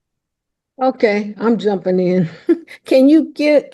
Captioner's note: chuckles